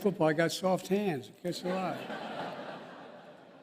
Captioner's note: laughter